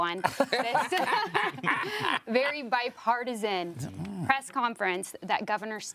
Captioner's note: group laughing